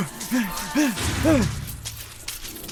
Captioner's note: panting; gunshots in the distance